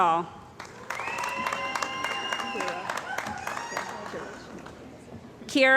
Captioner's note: cheering & Applause